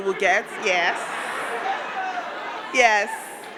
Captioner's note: crowd laughing